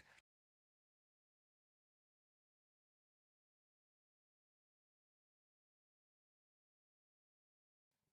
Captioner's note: silence